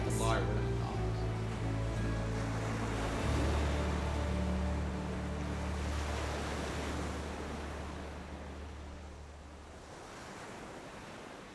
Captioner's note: sound of waves rolling